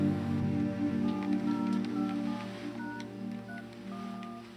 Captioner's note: phone beeping